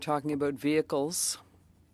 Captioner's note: speaking French